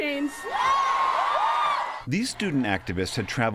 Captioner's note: cheering and applause